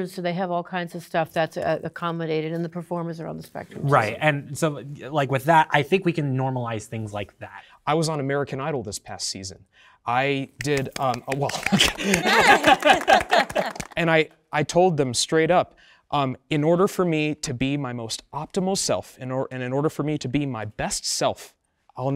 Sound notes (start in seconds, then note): 10.6 participants applauding; 11.1 participants laughing; 11.4 chuckling